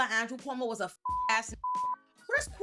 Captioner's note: beep